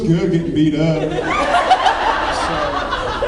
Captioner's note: laughs